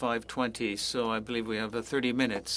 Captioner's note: speaking french